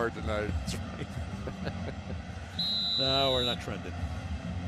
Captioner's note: chuckles